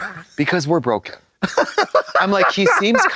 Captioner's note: hoots